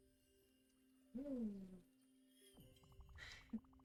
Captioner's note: giggles